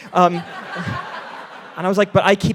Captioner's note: all laughing